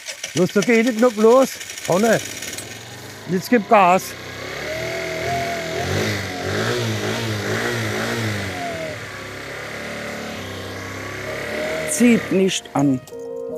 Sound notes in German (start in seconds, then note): 4.9 Motor dreht hoch